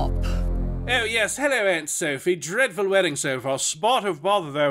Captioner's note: trying a British accent